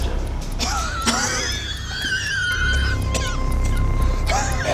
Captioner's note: coughing